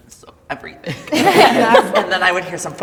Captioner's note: everybody laughs